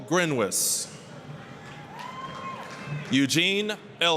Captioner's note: applause, cheering